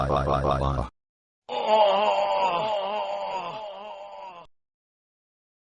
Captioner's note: Not-Harry Potter groaning